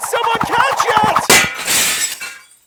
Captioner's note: shatters